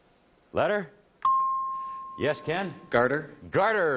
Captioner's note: ping